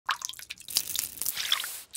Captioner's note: skillet sizzling; food splashing; egg splashing